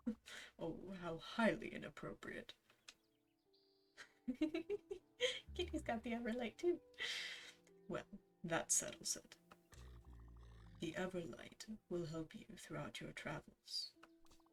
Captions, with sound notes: "Oh, how highly inappropriate." *giggles again, then normal voice* Kitty's got the Everlight too! "Well, that settles it. "The Everlight will help you throughout your travels.